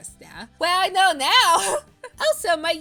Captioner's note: laughs